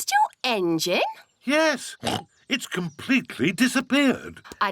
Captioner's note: oinks